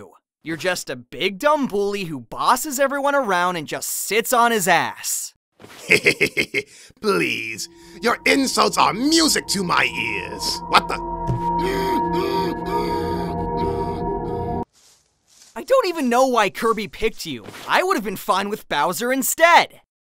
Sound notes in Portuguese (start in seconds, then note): 5.7 risadas